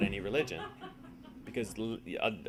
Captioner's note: audience laughing